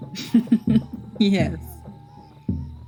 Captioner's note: chuckle